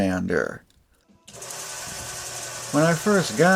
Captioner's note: sander sounds